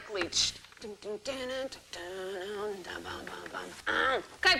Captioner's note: humming